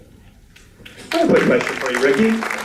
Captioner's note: applause